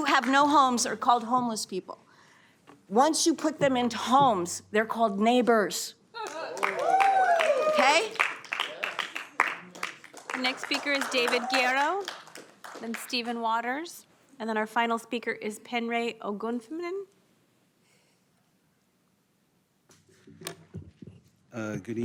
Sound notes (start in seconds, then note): 0.1 applause; 8.8 cheers and applause